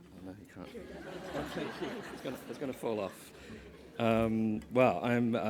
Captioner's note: laugh